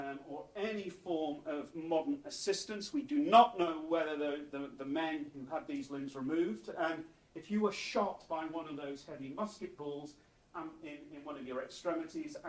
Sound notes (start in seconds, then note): none